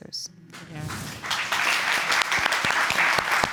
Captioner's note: audience applauding